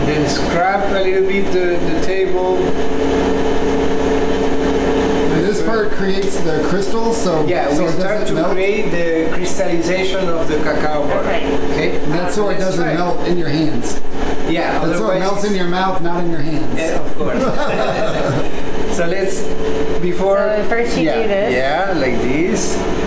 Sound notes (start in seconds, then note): 17.0 laughing